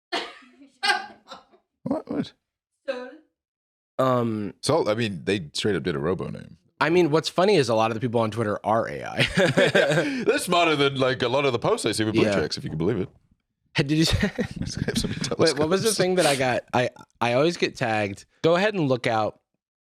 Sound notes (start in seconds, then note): 0.1 laughs; 13.9 laughs